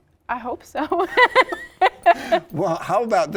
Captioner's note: laughs